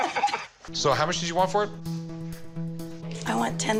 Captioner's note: laughter